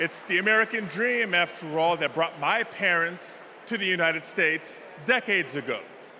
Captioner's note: applause